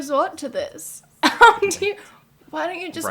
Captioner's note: laughter